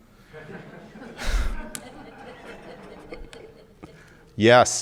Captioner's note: audience laughing